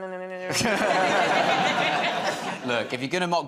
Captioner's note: laughter